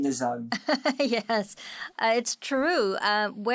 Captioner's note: laughing